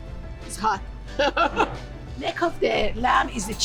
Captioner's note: chuckles